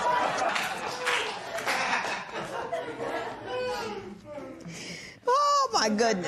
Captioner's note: scattered applause